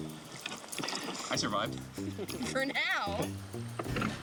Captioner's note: chuckling